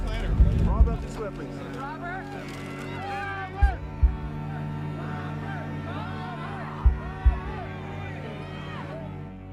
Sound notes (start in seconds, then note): 2.9 crowd shouting Robert's name and cheering